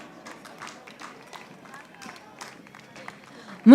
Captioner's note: audience applauding